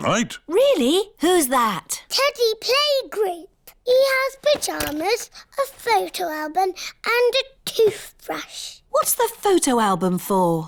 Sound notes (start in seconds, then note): none